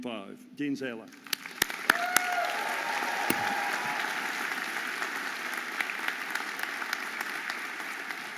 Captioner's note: audience applauding and cheering